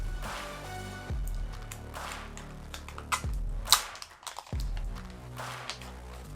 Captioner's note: upbeat music continues; plastic crinkling